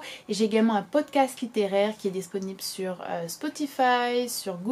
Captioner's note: in french